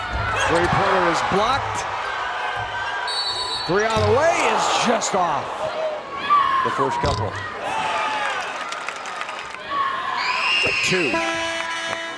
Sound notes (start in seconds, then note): 5.5 crowd gasps; 11.1 horn blares